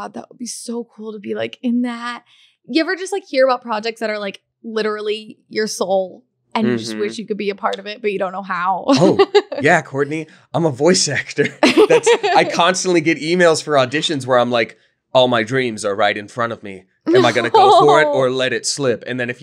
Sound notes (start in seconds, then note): 8.9 laughing; 11.4 laughing